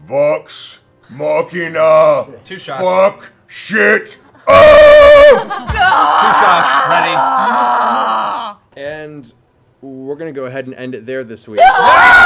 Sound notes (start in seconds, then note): 5.7 cheering; 11.6 loud exclamations